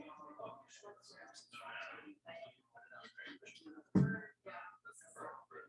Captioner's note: people chattering indistinctly